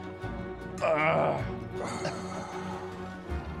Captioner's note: grunts